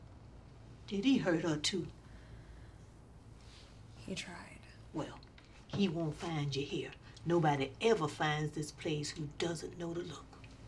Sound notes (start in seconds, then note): none